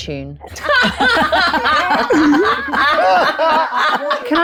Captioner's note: group laughs